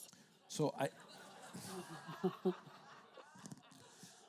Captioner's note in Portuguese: risos da plateia